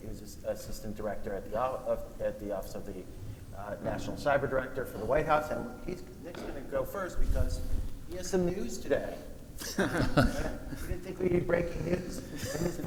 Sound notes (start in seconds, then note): 9.6 panel laughing